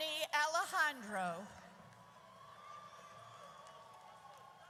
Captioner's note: audience cheers